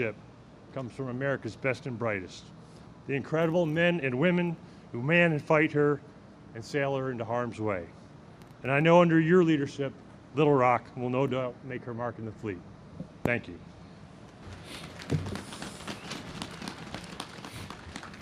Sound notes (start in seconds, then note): 14.5 audience claps